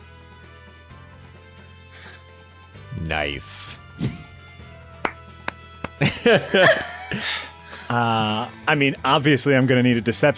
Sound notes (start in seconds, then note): 5.0 clapping; 5.9 laughing